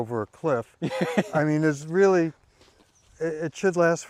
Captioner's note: laughing